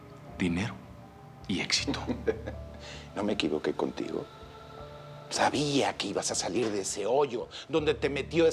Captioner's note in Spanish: Risas del papá